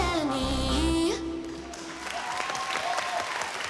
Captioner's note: cheering, applause